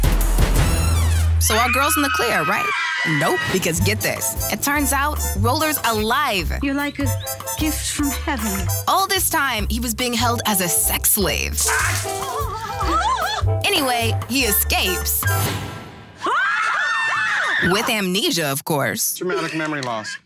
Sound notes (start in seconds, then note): 11.7 laughing; 16.2 screams